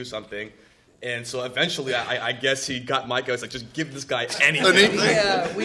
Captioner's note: laughter